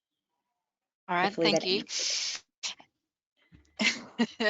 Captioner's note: laughs